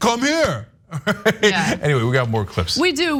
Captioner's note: laugh